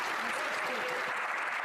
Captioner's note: some Applause